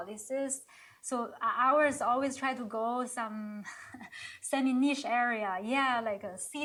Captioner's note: chuckles